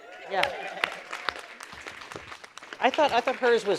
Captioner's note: audience applause